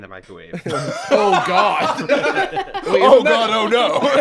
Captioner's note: laughs